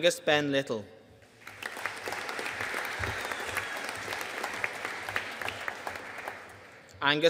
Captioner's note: audience applauding